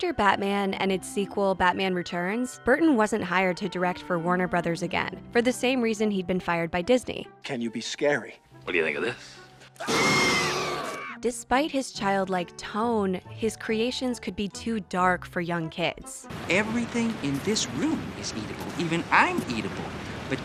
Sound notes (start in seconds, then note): 9.8 screams